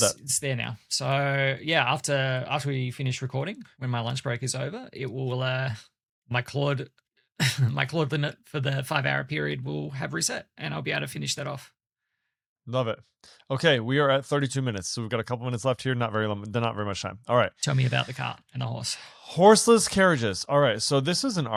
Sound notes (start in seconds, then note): 7.4 chuckles